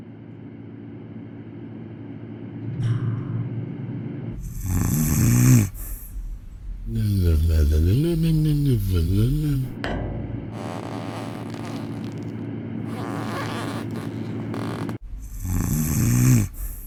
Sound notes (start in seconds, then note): 4.4 snoring; 10.5 shoe squeaking on wooden floor; 15.2 snoring